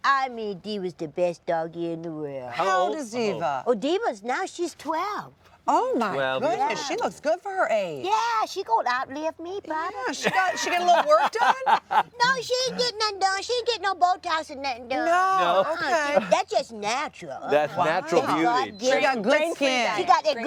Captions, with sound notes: I mean Diva's the best doggie in the world. How old is Diva? -- Oh, Diva's, now she's 12! Oh she looks good for her age! Yeah she gonna out live me probably. *laughter* Yeah, she get a little work done? No she didn't get no Botox or nothing, no that's just natural. That's natural beauty! --It's God given, she's got them